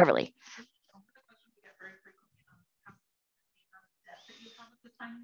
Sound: faintly speaking

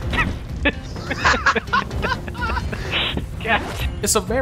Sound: both laughing

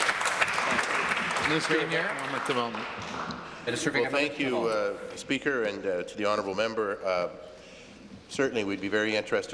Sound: applause

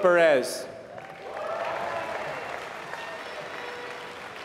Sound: applause

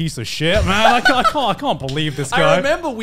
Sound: laughing

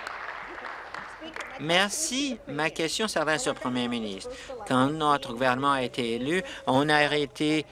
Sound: applause

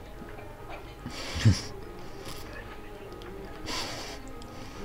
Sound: stifles a laugh

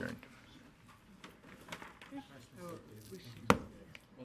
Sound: crowd chattering

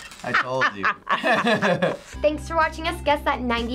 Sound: laughs

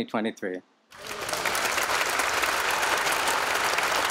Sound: applause

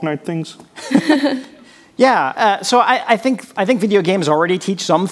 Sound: chuckles

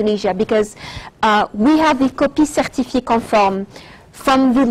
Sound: speaks in French

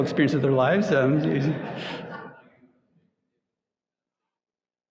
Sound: audience chuckling

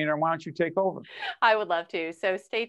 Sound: laughing

